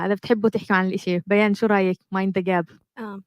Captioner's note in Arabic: لغة أجنبية